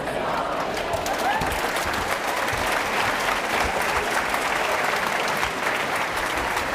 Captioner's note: applause